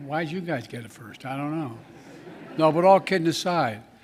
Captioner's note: laughter